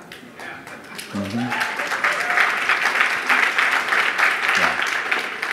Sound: audience applauding; audience whoops

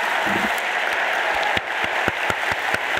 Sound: audience applauding

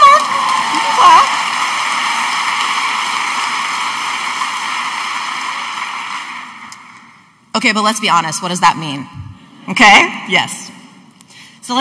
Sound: audience applauding

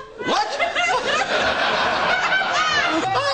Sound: laughs

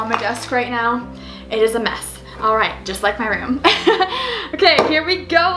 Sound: laughs

